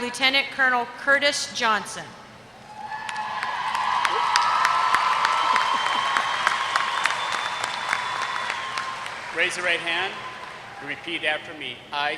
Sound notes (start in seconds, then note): 2.8 applause